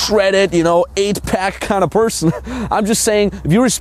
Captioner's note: laughs